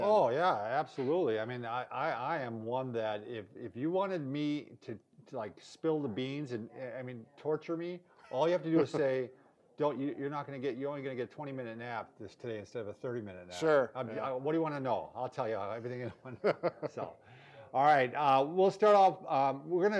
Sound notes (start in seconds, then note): 15.9 laughs